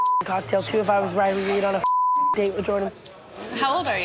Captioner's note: beep; beep